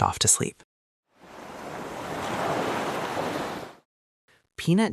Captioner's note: ocean waves